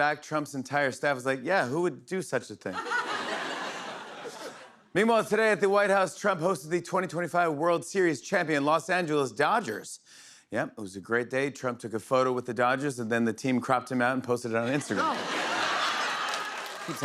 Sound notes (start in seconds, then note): 2.7 laughter; 14.6 laughter